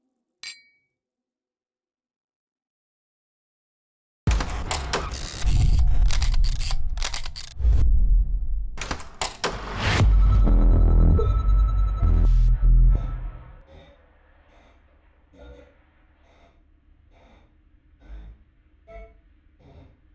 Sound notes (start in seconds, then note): 0.4 glasses clinking; 5.1 film equipment clicking and whirring; 9.2 logo whooshing; 9.8 soft eerie music; 12.8 person breathing heavily